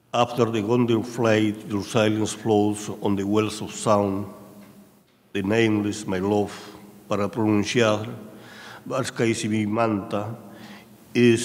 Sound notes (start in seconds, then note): 5.4 speaking in a foreign language